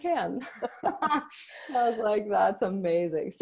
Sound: both laughing

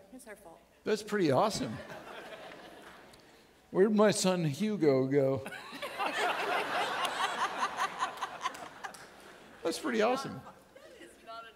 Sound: audience laughing

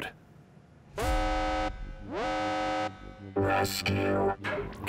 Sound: alarm blaring

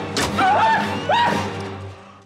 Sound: squealing

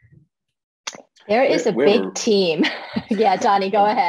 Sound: laughs

